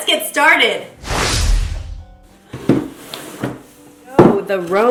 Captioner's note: loud whoosh